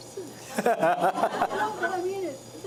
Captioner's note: laughter